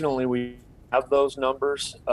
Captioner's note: audio breaks